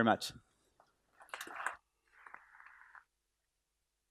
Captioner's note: applause